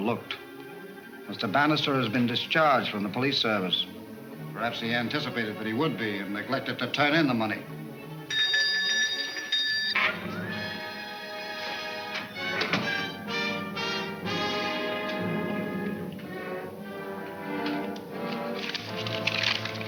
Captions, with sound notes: Mr. Bannister has been discharged from the police service. Perhaps he anticipated that he would be and neglected to turn in the money. (bell ringing) (dramatic orchestra music)